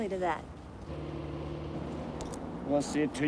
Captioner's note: car engines revving